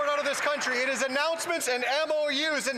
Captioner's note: some Applause